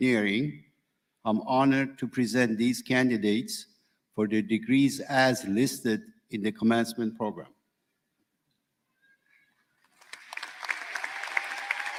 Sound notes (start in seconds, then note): 9.7 applause